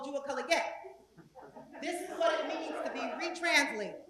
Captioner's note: laugh